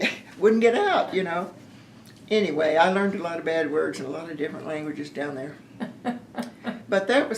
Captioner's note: laughter